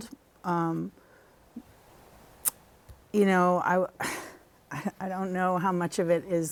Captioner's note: laughter